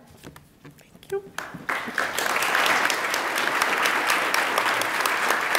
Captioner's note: attendees applaud